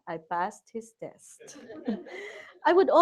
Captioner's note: laughter